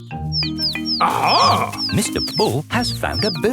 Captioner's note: chirping